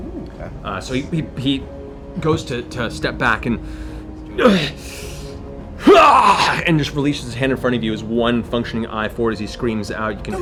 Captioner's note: grunting